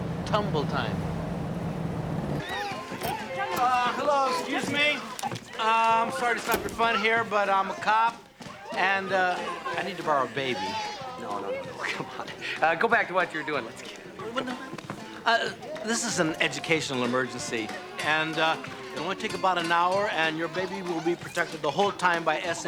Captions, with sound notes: Tumble-Time. (children chattering) Uh, hello, excuse me? I'm sorry to stop your fun here, but I'm a cop, and, uh, I need to borrow a baby. No, no, no, no, no, come on. Uh, go back to what you were doing. Let's get out of here. No, wait. Uh, this is an educational emergency. And, uh, it'll only take about an hour and your baby will be protected the whole time